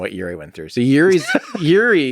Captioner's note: Lex laughs